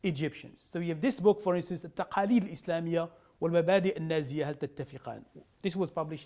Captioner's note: speaking arabic